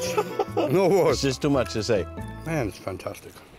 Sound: laughs

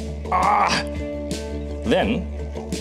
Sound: grunting

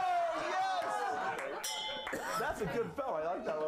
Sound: applause; bell rings

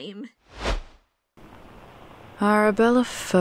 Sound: transitional whoosh, to mirah's house

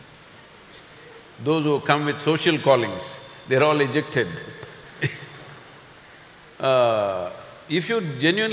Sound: laughs

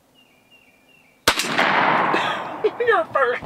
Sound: gun shoots

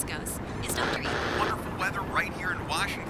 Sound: static

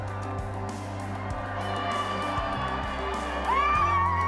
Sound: all cheering

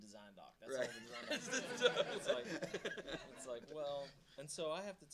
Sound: audience laughing

